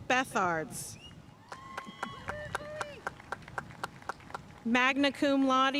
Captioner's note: audience cheering and applauding